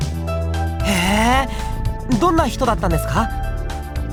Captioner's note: interested hum